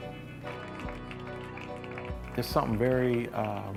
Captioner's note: crowd lightly claps